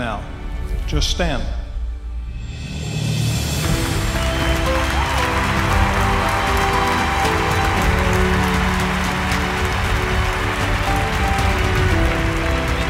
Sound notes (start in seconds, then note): 3.5 applause